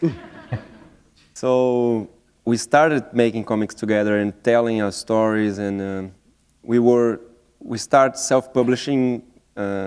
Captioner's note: chuckle